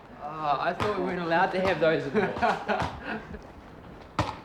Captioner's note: laughter